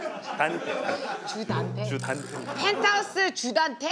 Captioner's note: cracking up